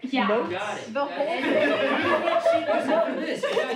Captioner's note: group laughs